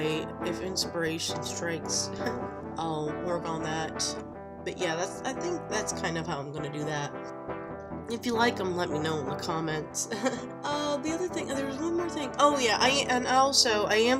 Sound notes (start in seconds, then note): 10.0 giggles